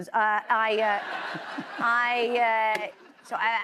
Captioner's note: laughter